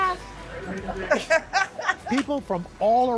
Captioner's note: laughter